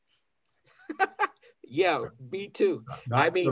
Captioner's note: laughs